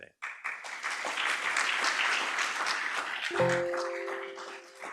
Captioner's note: audience applauds